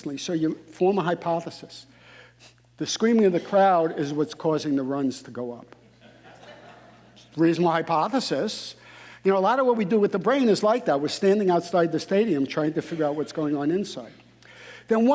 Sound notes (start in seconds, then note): 5.9 audience laughing